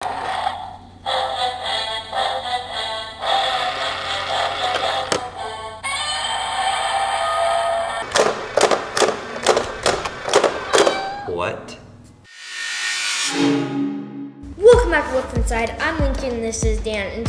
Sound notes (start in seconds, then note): 1.0 menacing music; 3.4 gears turning; 5.8 Godzilla roars; 8.1 plastic box repeatedly slamming shut; 10.7 cat meows